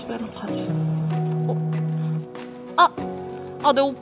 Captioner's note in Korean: 휴대폰 진동